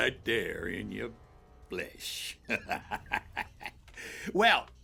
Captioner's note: laughs